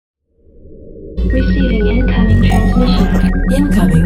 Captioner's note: voiceover